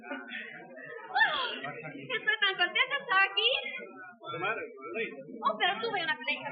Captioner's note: speaking Spanish